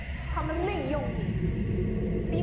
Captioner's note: Mandarin language